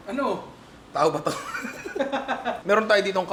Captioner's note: laughter